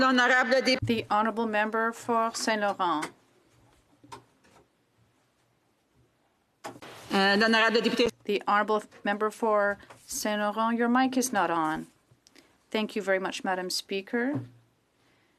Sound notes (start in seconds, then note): 2.8 speaking French